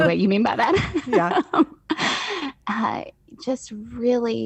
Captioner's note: laughs